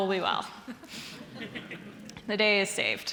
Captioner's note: audience laughing